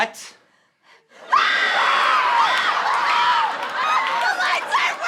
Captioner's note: screaming